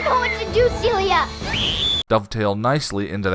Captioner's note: screams